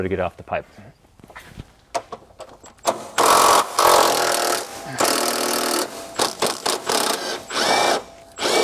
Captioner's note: drilling